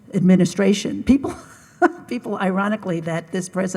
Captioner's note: laughs